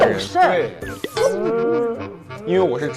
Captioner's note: crying